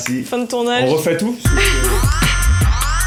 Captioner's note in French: Rires